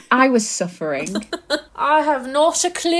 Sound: laughing

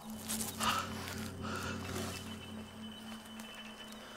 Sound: panting

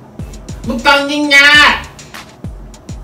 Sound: foreign language

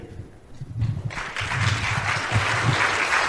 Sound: applause

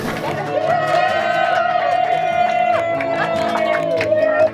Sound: nurses cheering

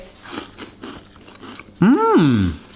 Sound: crunching

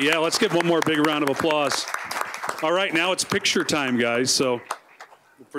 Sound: applause

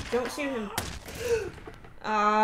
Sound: gasp

